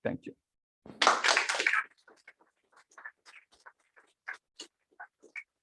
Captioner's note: applause